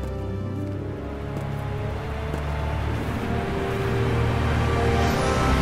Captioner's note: mysterious music continues; waterfall sloshing; mysterious music crescendos